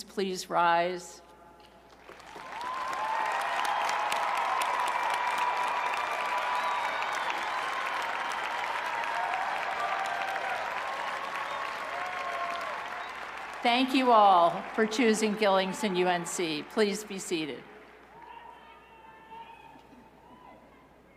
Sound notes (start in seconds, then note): 4.4 cheers and applause